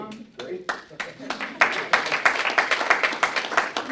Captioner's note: applause